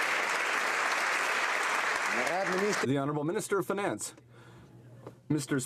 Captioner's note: some Applause